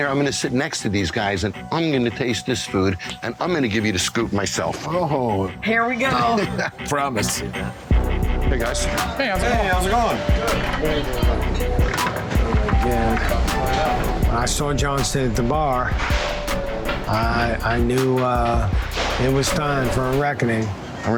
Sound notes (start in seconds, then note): 5.7 laughs